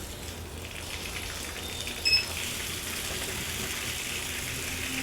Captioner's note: water rushing